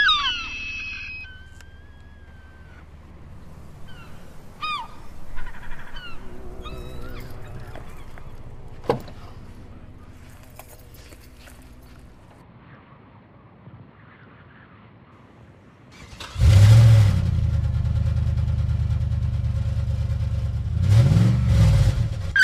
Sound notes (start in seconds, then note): 0.2 gulls squawking loudly; 7.6 car door opening; 15.9 car engine starting